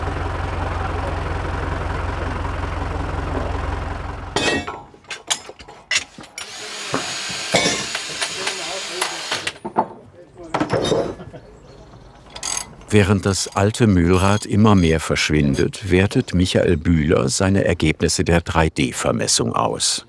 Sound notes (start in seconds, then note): 4.4 metallic sounds; 7.0 machine noises